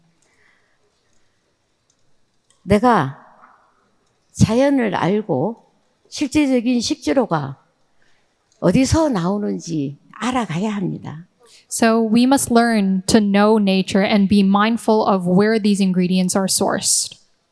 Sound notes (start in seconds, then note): 2.8 speaking in foreign language